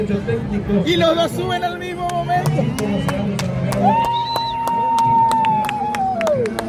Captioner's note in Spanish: Aplausos